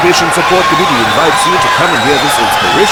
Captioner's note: wild applause and cheering for 22 seconds